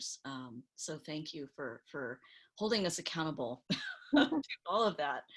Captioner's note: chuckles